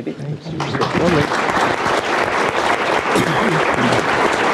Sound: audience applauds

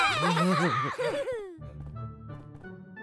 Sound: all chuckling

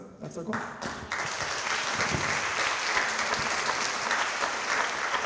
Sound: audience clapping

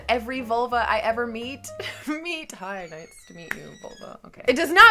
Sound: laughs

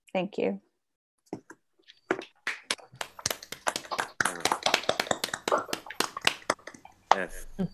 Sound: applause

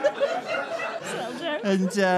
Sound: audience laughter

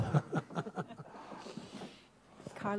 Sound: laughter

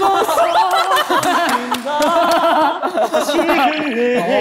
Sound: laughing

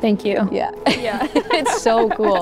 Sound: laughs

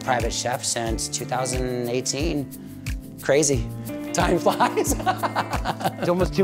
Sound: laughs

